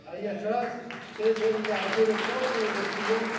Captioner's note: applause